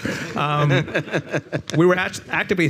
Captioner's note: all chuckling